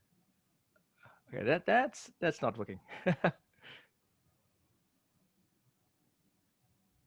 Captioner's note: chuckles